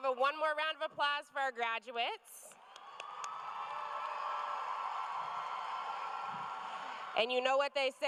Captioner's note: cheers and applause